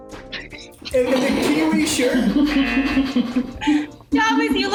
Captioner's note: laugh